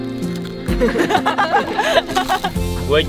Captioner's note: laughter